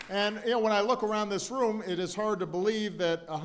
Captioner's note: applause